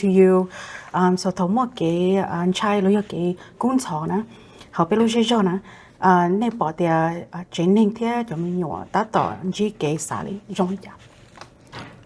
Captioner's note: Speaking in Hmong